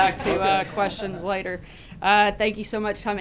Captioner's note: laughter